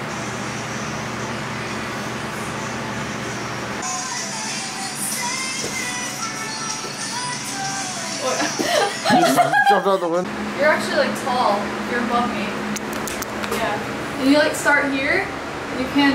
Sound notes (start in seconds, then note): 8.2 laughs